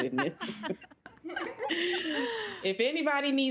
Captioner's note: all laughing